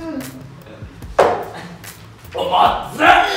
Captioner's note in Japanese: ゴンッ：コップ乱暴に置いた音